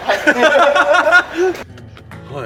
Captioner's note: laughs